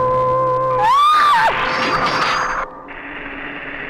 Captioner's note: screams; static on radio